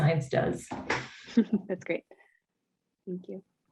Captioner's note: chuckles